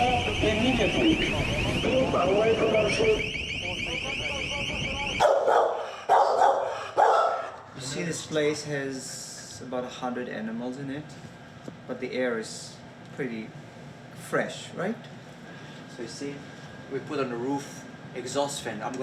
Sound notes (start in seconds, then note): 3.4 overlapping chattering; 5.2 dog barks